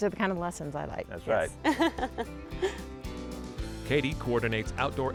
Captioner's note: giggles